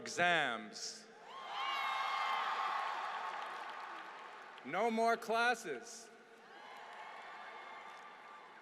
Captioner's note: applause